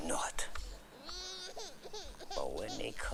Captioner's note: baby crying